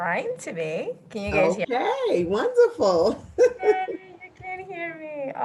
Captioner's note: laughing